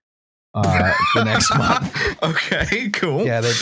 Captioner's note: burst of laughter